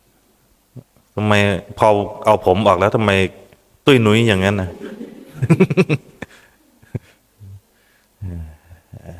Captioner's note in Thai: เสียงหัวเราะ